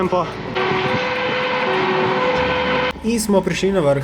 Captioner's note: siren